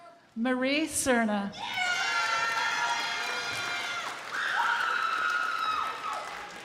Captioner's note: crowd applauding